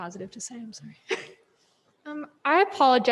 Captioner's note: laughs